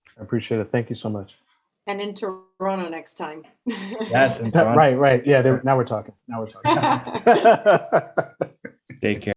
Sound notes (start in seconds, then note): 3.7 laughs; 6.6 laughing